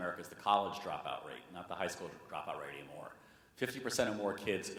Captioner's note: none